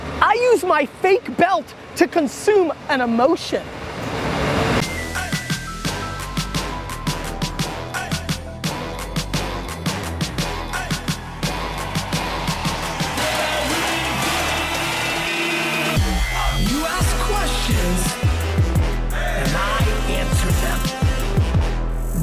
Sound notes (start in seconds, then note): 3.6 cars revving; 4.1 hip-hop music; 8.2 hip-hop music; 13.5 voiceover; 15.4 hip-hop music; 18.4 hip-hop music; 20.8 hip-hop music